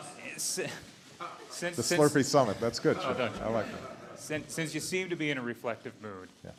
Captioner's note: laughter